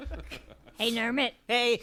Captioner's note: laughter